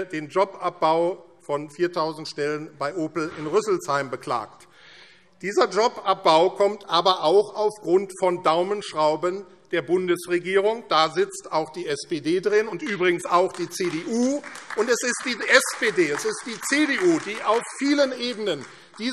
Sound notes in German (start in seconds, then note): 12.8 Beifall AfD